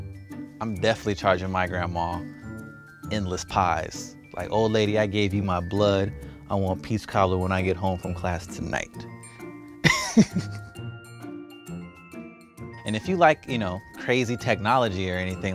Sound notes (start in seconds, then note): 9.9 laughing